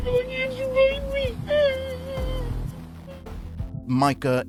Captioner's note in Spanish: llorando